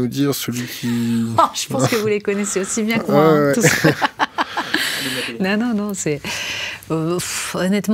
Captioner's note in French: Rires